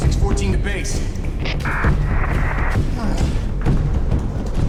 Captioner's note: static